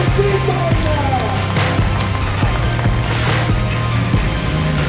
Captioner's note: crowd clapping